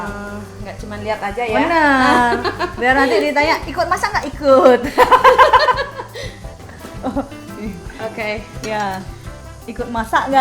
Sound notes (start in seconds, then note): 1.8 laugh; 8.5 laugh